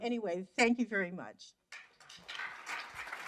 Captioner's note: applause